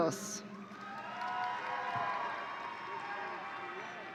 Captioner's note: audience cheering